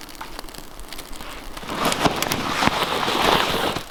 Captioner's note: fire crackling